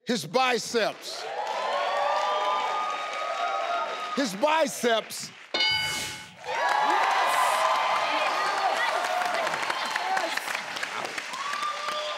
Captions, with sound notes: - His biceps! (crowd cheers) His biceps! (board dings) - Yes! (crowd cheers)